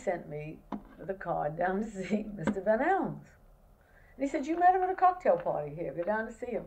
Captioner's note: laughs